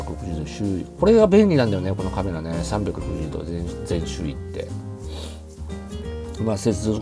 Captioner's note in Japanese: 鼻息